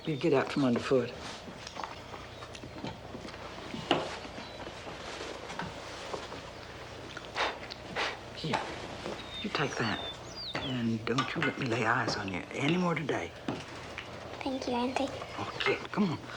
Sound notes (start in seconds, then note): none